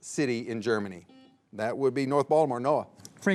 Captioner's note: buzzer beeps